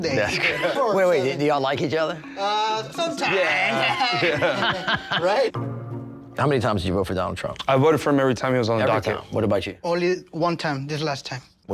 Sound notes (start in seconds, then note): 2.7 laughing